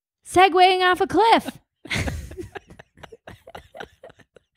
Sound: both laugh

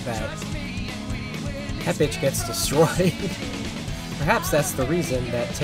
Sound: laughs

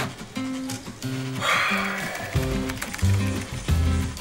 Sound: sighs

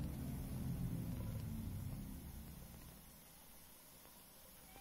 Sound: water running

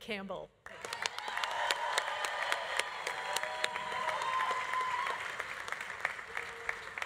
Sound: audience applauding; audience cheering

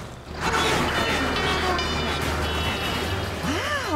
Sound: honking

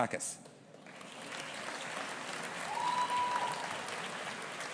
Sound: audience applauding

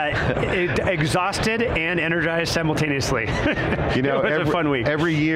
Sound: laughs; laughs

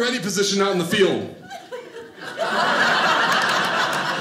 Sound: audience laughing

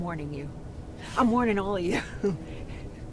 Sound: laughing

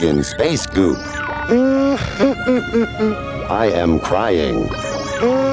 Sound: crying; crying

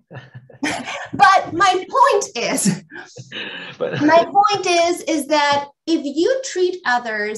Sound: laughs

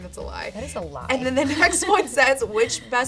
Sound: chuckles

